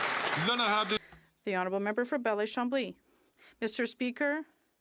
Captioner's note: some Applause